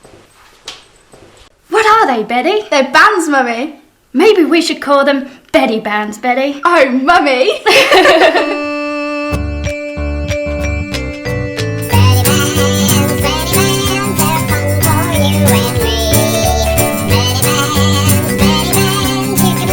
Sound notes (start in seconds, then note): 7.6 giggles; 8.6 upbeat jingle music